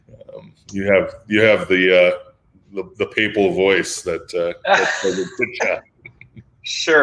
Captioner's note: laughs